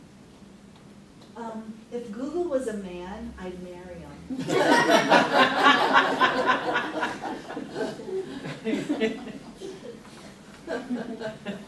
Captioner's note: everyone laughs